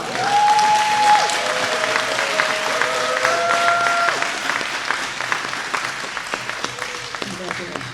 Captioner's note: applause